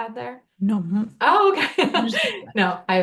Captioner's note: laughing